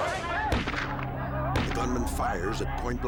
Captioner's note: gunshots firing